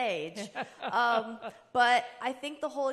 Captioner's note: chuckling